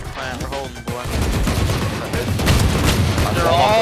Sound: guns firing

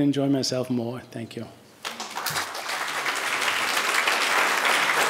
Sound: audience applauding

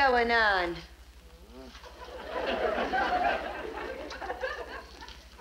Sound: audience laughs

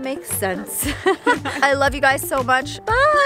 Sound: laughter

